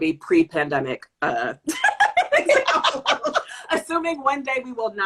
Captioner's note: laughter